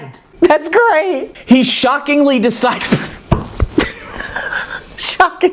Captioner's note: laughs